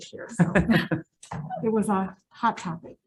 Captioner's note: member laughs